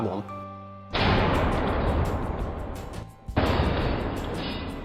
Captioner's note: loud bang